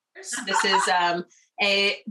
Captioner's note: background laughter